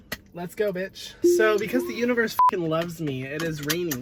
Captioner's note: beep